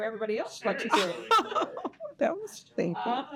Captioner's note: all laughing